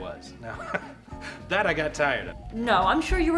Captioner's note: chuckles